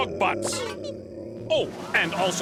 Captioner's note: growling